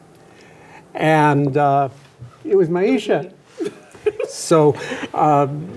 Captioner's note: laughs